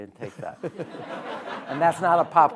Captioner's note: audience laughing